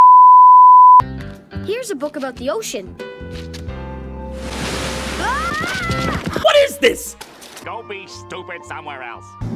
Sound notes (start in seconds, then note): 4.4 Arthur screams